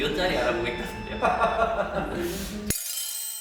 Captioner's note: laughter